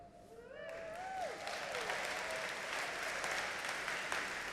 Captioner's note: audience applauding